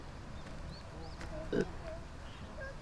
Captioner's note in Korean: 트름 소리